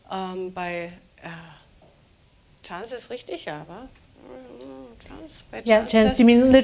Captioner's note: speaking german